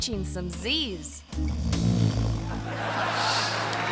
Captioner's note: host snoring; audience laughing and clapping